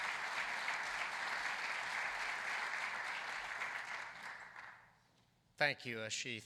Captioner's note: applause